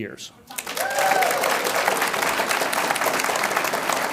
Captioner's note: audience applauds